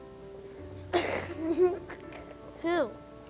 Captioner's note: laughter